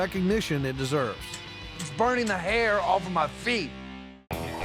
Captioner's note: stomping